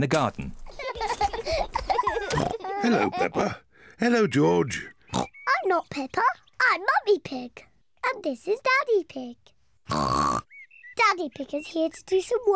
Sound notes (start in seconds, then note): 0.6 both laughing; 4.3 oinks